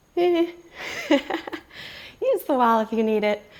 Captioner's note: laughs